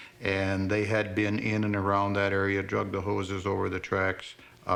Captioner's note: none